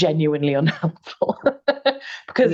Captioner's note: laughing